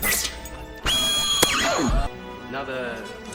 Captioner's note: hit marker sfx